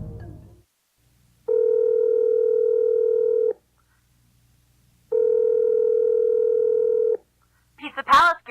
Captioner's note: phone ringing